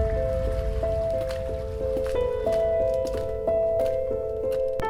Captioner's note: eerie music playing; mans footsteps